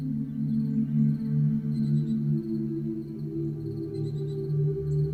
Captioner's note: birds chirping